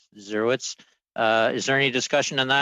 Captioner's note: speaking French